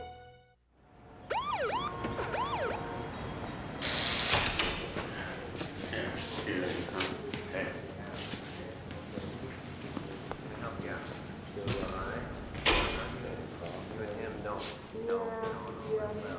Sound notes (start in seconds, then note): 1.1 siren wails; 3.8 buzzing